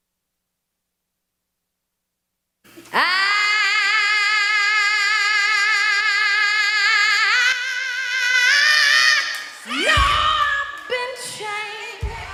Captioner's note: applause